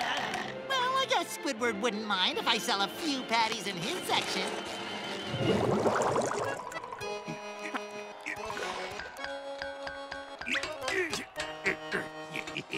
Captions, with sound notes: Well, I guess Squidward wouldn’t mind if I sell a few patties in his section. [laughing]